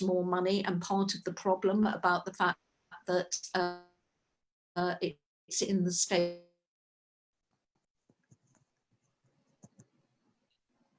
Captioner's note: audio cuts out